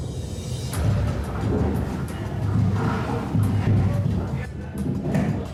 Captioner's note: muffled thudding